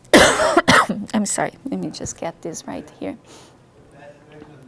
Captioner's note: coughs